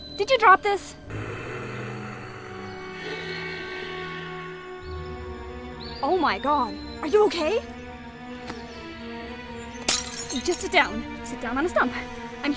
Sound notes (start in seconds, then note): 1.1 Steve breathing; 9.8 glass shattering